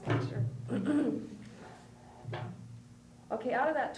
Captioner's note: clears throat